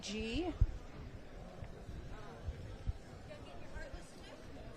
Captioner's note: background chatter